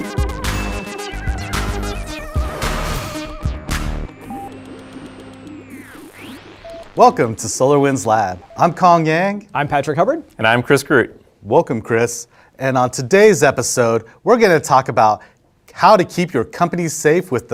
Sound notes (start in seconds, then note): 0.6 light bulb blinks; 4.4 antenna beeping and transmitting